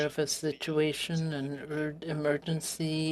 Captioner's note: speaking French